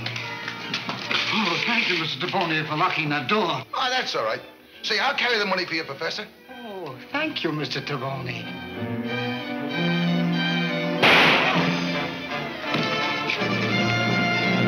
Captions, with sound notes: - Oh, thank you, Mr. Taboni for locking that door. - Oh, that's all right. Say, I'll carry the money for you. professor. - Oh, thank you, Mr. Taboni. (gun fires) (suspenseful music)